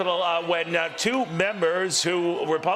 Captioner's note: cheering and applause